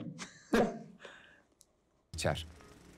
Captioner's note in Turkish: Gülüyor